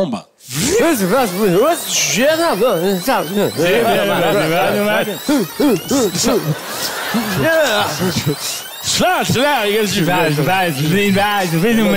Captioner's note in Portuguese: fita rebobinando